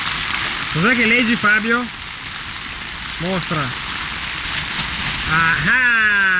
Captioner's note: heavy rain